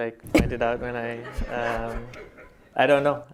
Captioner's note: laughter